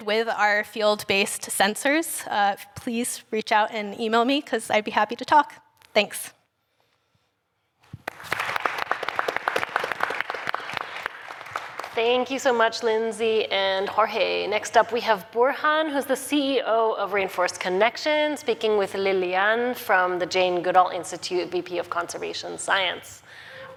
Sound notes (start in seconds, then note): 7.9 applause